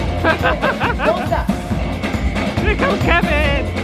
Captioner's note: upbeat music; laughs